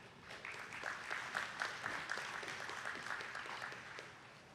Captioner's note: attendees clapping